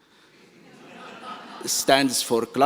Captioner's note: laughter